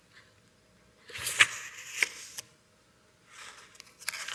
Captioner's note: paper flipping